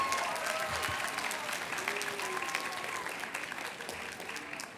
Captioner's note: cheers and applause